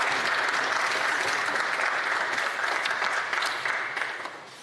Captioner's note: applause